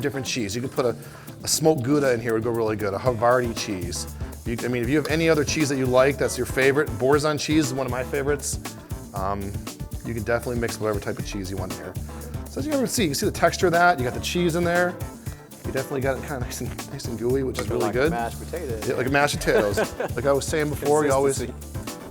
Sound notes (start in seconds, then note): 14.3 laughter